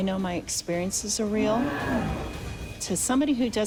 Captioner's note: growling